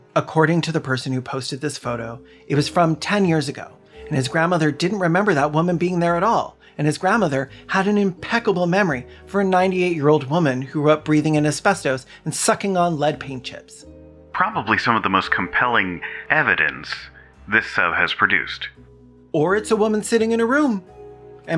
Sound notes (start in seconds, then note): none